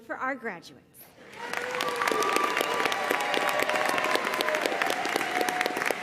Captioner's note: audience cheering and applauding